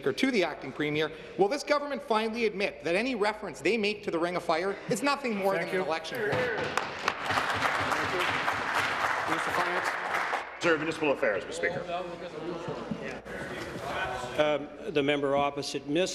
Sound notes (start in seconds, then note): 12.2 applause